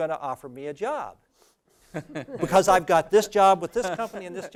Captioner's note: laugh